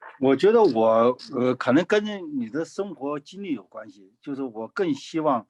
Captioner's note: speaking in foreign language